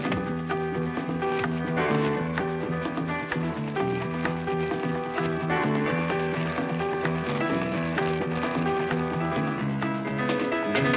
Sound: tinfoil ripping; plastic wrap ripping; Lunch pail thuds

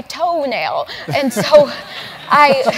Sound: laugh

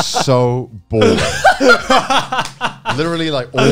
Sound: laughing

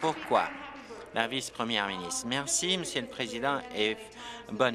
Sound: applause

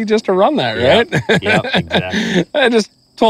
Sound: laughs

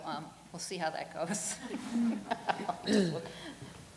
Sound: laughter

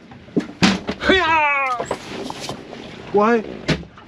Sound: Tarzan cry!

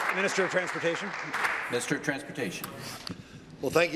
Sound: applause

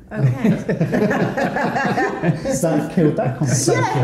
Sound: light laughter

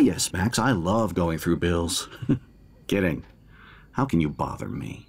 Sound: chuckles

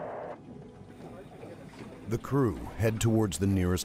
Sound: voiceover

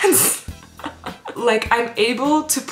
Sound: laughs

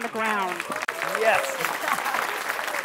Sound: all clapping

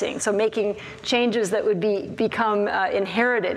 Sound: none

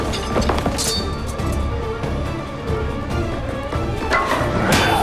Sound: sword clinks

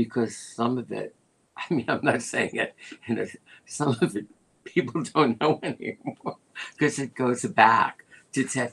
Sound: laughter

